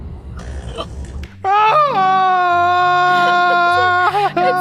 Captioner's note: farting; yelling